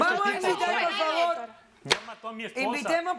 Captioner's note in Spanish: Hablan al unísono